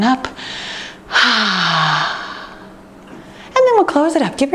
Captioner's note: sighs